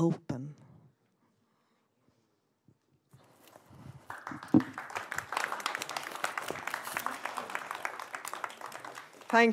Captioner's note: applause